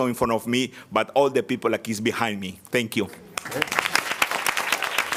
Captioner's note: applause